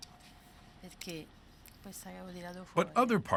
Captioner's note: speaking quietly